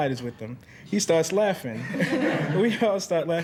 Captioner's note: students chuckling